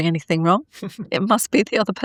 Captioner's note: laughing